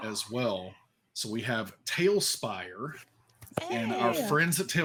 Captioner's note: person gasping